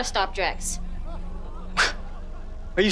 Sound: gasping

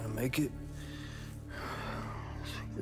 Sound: James sighs

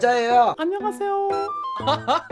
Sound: high tone

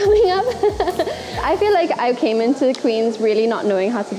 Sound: laughing

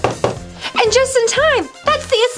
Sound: knocking; gasps

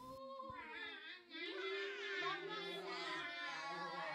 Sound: howls

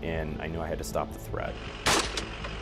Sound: gunshot

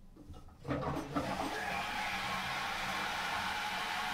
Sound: flushing

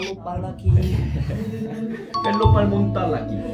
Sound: giggling

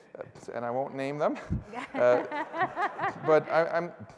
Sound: laughter

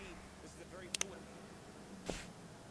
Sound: remote Click

